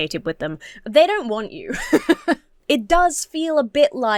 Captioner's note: laughs